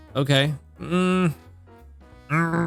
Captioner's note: groans